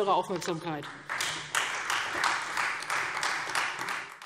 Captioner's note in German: Beifall Freie Demokraten